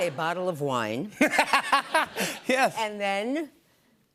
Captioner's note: laughter